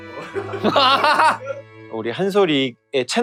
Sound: laughter

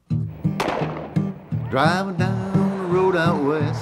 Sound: folk country music; booming; whooshing

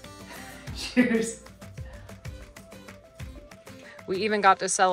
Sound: laughs

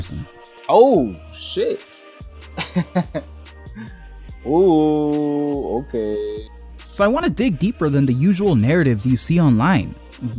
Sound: laughs

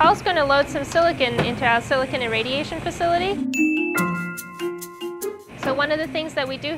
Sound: ding

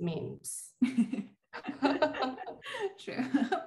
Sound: laughing

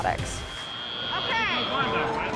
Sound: buzzer

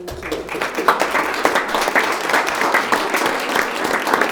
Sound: audience applauding

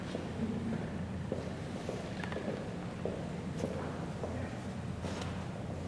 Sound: footsteps

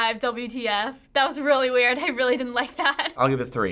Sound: giggles

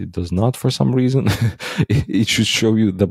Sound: laughs

